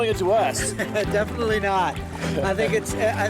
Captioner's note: laughs